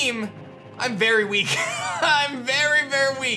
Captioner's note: laughs